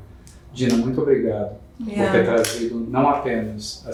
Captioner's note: speaking portuguese